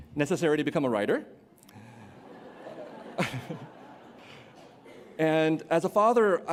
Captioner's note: laughter